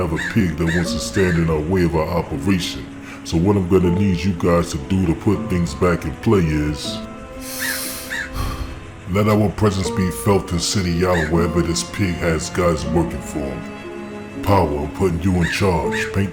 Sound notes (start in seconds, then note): 7.4 breathes